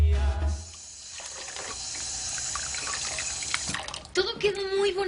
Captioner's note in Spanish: Ruido del agua